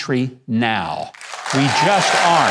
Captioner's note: audience applauding